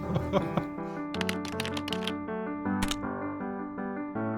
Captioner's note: laughs; gentle piano music; computer keyboard clicks; gentle piano music